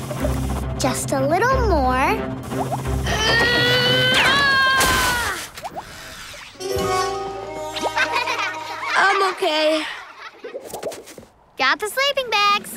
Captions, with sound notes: Just a little more. [screaming] [laughing] I'm okay. Got the sleeping bags.